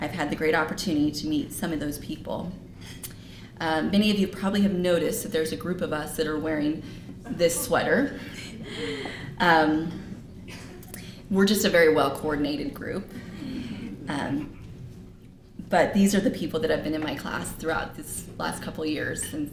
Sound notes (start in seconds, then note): 8.3 laughter; 13.1 laughter